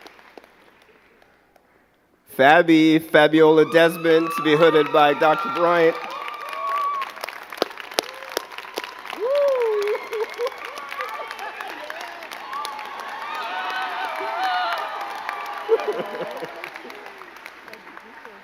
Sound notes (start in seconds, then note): 7.2 crowd cheering and clapping